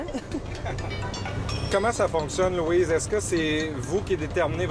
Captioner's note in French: rires